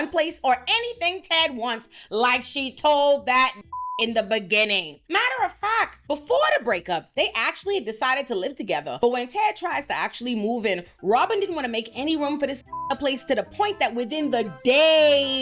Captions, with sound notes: place or anything Ted wants like she told that (beep) in the beginning. Matter of fact, before the breakup, they actually decided to live together. But when Ted tries to actually move in, Robin didn't wanna make any room for this (beep) in a place to the point that within the day